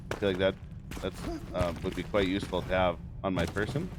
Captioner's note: fire crackles